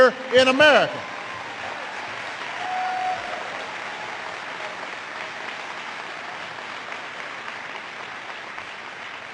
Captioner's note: applause